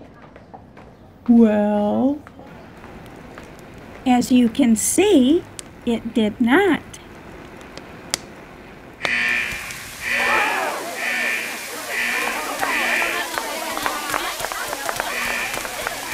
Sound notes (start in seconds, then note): 2.6 fire crackles; 7.5 crackle; 9.0 fire alarm; 11.2 water spray